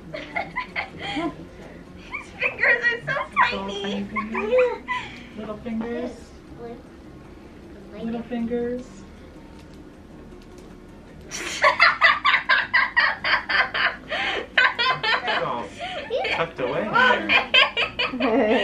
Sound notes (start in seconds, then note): 0.1 laughing; 11.3 laughing